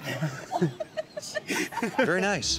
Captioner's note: laughing